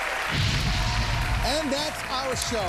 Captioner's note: flames exploding